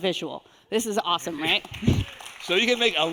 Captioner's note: audience applauding